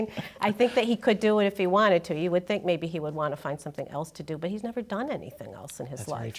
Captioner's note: laughter